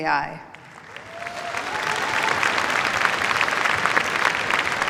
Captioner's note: cheers, applause